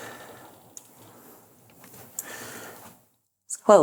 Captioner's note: heavy breathing